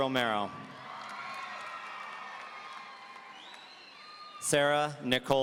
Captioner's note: audience cheering